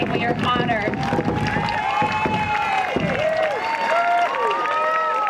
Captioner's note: cheering and applause